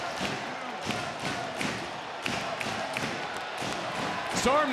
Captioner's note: crowd rhythmically clapping; crowd stomping